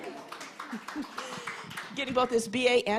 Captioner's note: audience applauding